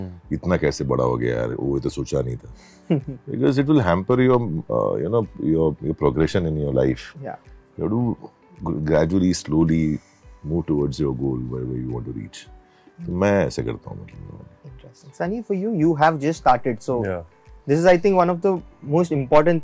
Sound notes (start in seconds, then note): 3.0 laughs